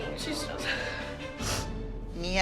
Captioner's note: sniffling